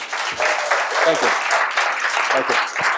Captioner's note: audience applauds